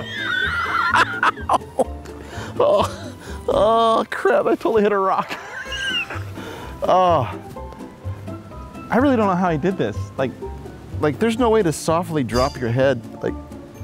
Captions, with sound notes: Ow! Aw, crap. I totally hit a rock! (laughs) (groans) I really don't know how he did this. There's no way to softly drop your head.